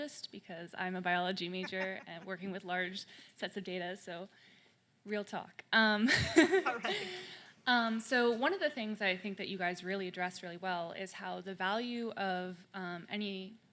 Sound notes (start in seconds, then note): 6.1 people laughing